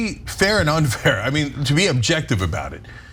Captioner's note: laugh